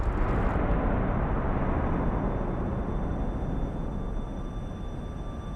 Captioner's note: explosion